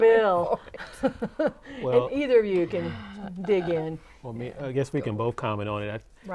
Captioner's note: laughing